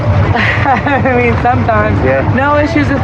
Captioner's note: lauaughghs